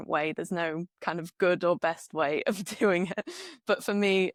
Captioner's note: laughs